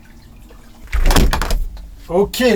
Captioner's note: door closing